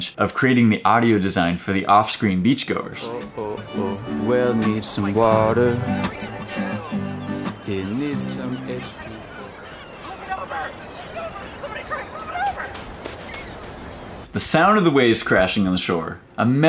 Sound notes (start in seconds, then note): 12.9 sand crunching